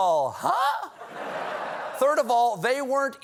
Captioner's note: laughter